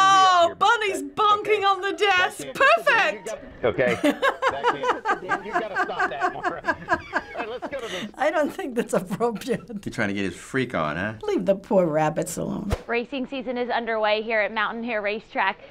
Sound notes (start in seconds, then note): 0.0 laughing; 3.8 laughing incessantly